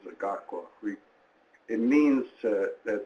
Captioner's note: speaking in foreign language